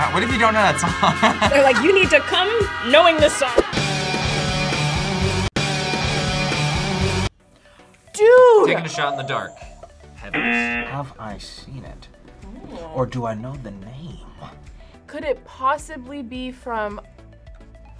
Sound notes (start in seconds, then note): 1.3 laughs; 3.9 rock music; 7.8 gasps; 10.2 buzzer rings; 10.3 buzzer